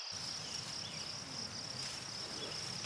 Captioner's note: birds chirping